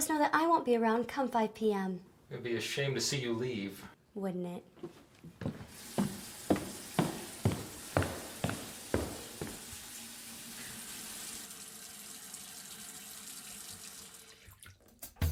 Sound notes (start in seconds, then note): 5.2 high heel footsteps echo